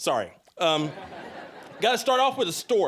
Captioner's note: audience laughing